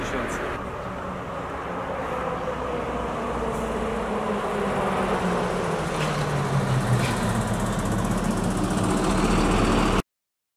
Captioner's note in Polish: dźwięk przejeżdżającego samochodu